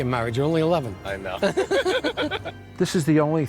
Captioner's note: both laughing